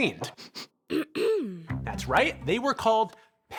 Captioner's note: person sniffing; person clears throat